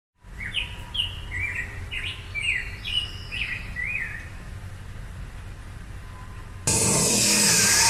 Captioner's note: gentle bird noises; sawing noises